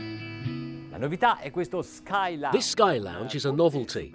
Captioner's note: speaking foreign language